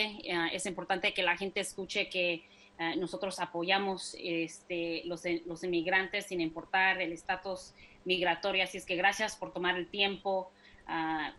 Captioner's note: speaking spanish